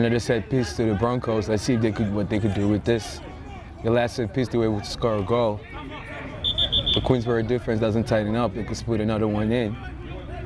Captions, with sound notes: Another set piece to the Broncos, let's see if what they could do with this. The last set piece they were able to score a goal. (whistle) The Queensborough defense doesn't tighten up they could split another one in.